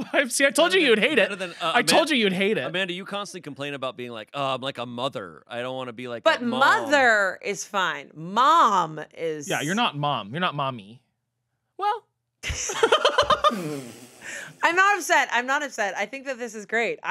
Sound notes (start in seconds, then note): 12.5 laughs